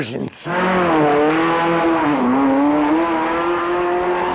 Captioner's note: engine revving